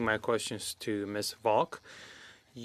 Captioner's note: speaking French